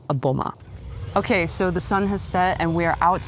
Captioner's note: insects chirping